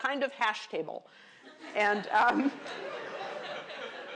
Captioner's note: laughter